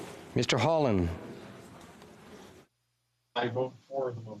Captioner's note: speaking FRENCH